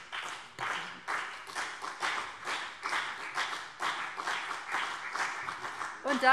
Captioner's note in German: Beifall BÜNDNIS 90/DIE GRÜNEN und CDU